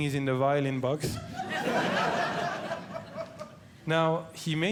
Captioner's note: audience Laughing